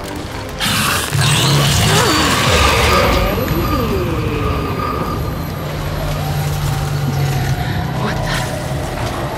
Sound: gunshots

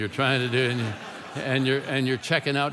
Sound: congregation laughing

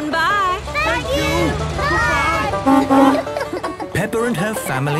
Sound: honking

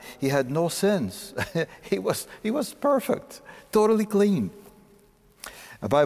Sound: chuckling

